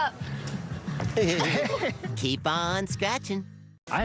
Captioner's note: everyone laughs